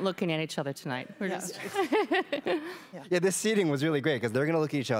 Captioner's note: laughs